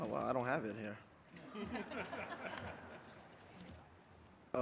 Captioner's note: laughing